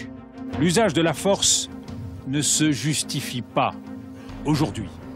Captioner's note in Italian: parla in Francia